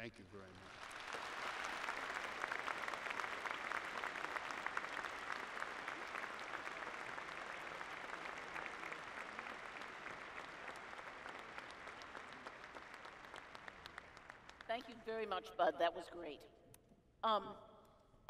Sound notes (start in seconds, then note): 1.8 applause